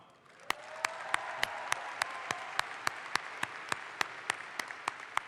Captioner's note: audience applauds